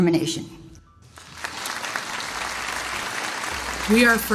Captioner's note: audience applauds